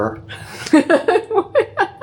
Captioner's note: laugh